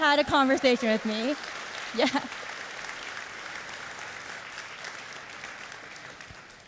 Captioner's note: audience cheering and applauding